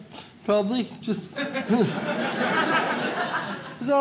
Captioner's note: audience laughs